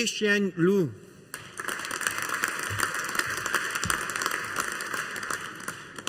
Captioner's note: audience applauding